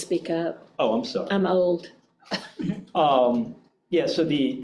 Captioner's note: chuckles